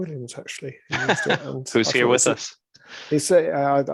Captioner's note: laughs